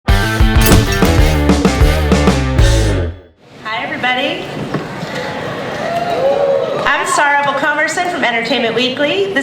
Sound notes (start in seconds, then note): 0.0 upbeat rock music; 5.0 audience cheering